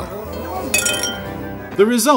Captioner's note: glass clinking